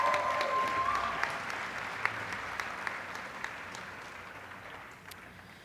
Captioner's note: applause